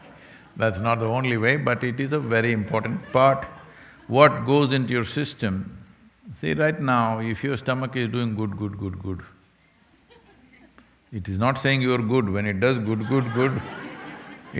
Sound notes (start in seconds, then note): 0.0 laughter; 9.8 laughter; 12.8 laughter